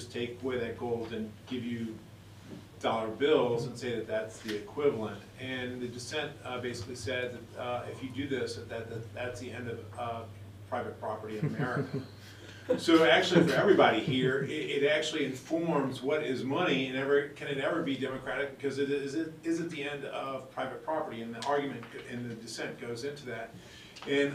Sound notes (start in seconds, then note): 11.3 laughter